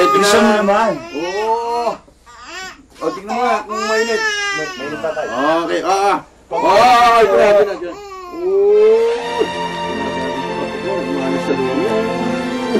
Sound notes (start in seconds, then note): 8.2 coos